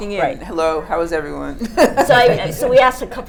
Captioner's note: laughing